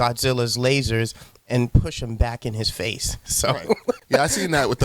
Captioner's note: laughs